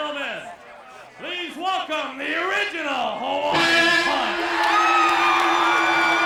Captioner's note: applause